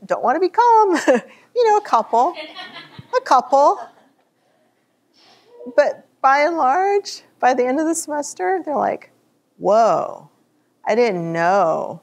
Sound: chuckles

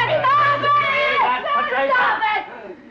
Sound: all shouting

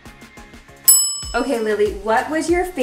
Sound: bell dinging

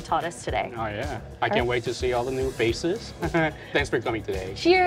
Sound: chuckles

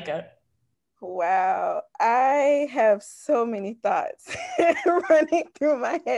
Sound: chuckles

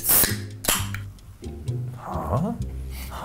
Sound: soda can pops; sniffs

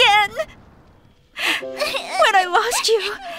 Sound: weeping

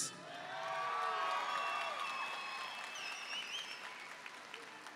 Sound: audience cheering

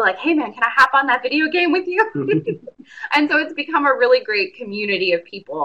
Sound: laughs

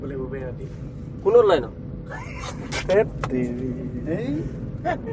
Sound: friends laughing and mocking

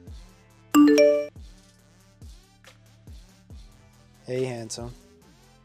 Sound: message dings

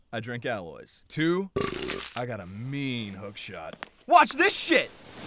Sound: burp

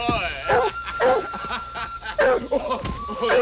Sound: laughter

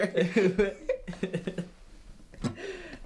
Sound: giggling; strum, sighing

